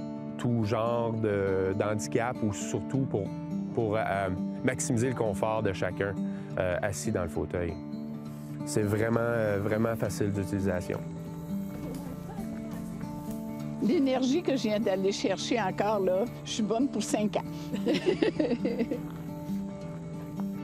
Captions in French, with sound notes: pour à peu près tout genre d'handicap ou surtout, pour maximiser le confort de hacun, assis dans le fauteuil.c C'est vraiment, vraiment facile d'utilisation. L'énergie que je viens d'aller chercher encore, là, je suis bonne pour 5 ans! (rires)